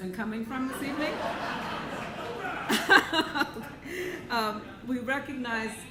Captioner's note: audience laughing